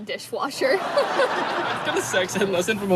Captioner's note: audience laughs